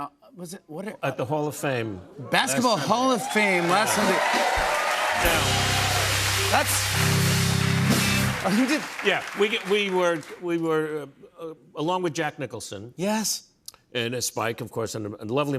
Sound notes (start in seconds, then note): 4.6 cheers and applause